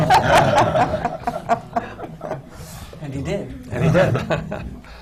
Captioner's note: laughter